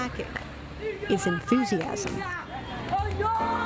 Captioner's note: speaking spanish